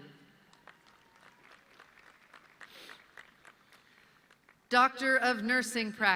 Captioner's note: audience clapping